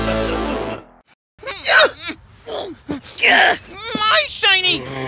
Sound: grunting and growling; growls

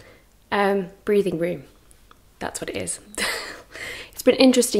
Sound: laughs

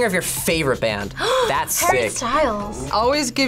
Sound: gasps

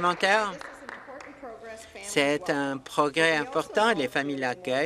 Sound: applause

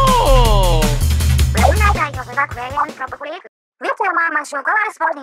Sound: squid language

